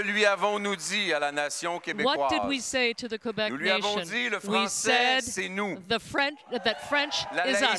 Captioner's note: cheers and applause